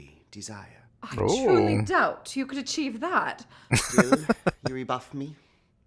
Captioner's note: chuckling